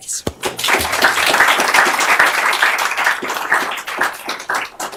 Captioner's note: applause